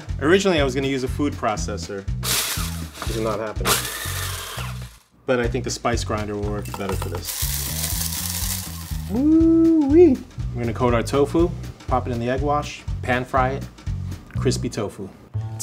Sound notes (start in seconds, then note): 3.6 food processor whirring; 7.3 grinder whirring